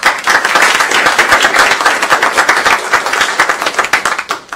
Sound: applause

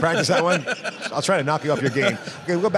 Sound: laughs

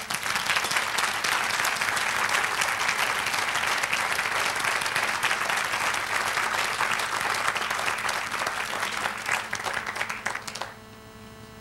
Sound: applause

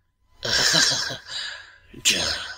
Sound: giggle

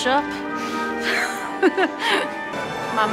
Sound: laughing

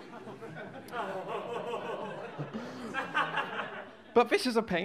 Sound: low chuckles of realization from audience

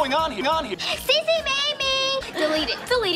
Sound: gasp

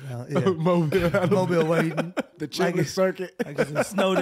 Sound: laughing

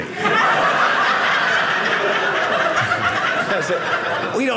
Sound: audience laughing

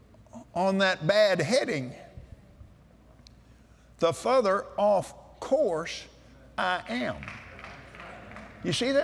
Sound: claps

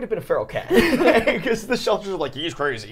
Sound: all laughing

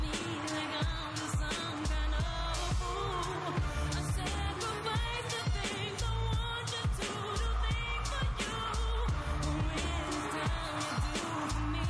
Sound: cheers and applause

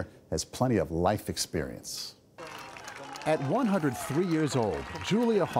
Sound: applause

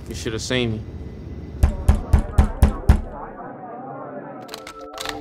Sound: pounding on door

